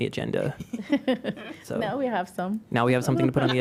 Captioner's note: laughter